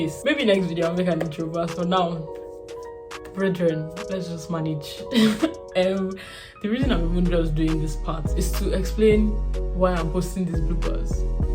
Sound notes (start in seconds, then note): 5.2 laughs